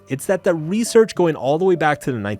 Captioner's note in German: none